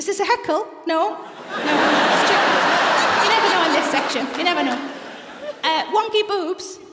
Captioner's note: laughter